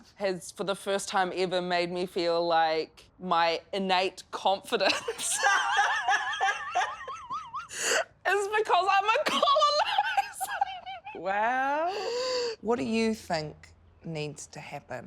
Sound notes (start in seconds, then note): 4.9 laughs loudly